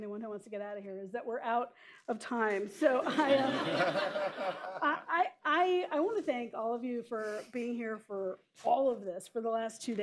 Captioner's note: laughter